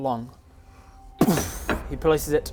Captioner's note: boof